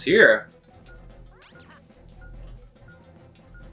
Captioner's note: bomb ticking